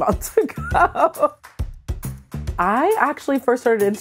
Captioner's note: laughs